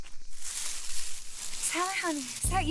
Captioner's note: rustling brush